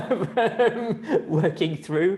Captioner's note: laughing